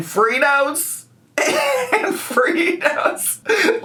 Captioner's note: laughs